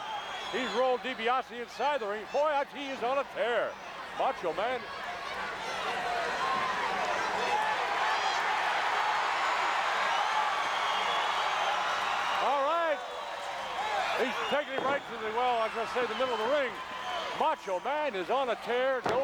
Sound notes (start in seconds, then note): 8.9 applause